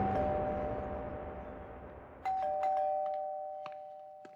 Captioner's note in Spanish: Timbre de la puerta